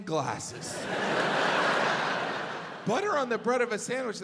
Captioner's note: audience laughs